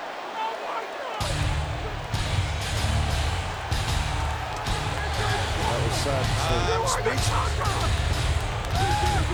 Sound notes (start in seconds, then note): 1.2 intense music; 1.7 crowd clamoring